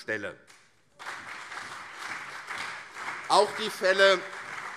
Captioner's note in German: Beifall CDU und SPD